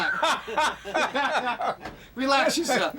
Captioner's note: laughing